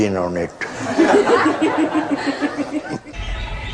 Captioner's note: laughter